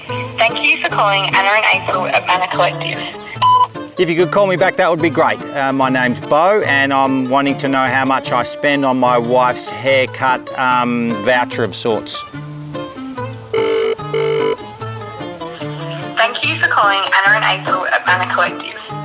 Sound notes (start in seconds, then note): 13.5 phone ringing